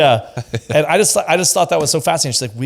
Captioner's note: laughs